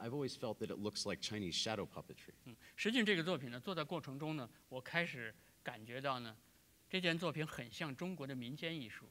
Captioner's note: speaking in Chinese